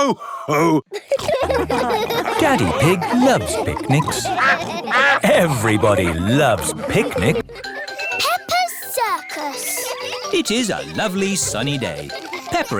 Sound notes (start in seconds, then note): 0.9 laughter; 6.2 quacking; 7.1 laughter; 7.4 children giggling